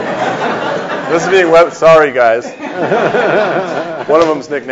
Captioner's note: audience laughs